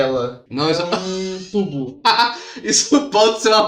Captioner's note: laughing